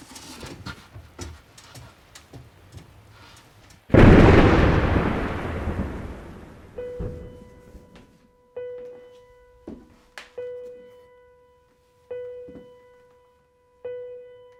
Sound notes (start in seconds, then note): 3.9 thunder cracking; 6.7 gentle piano music